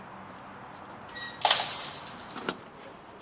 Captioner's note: clanking metal fence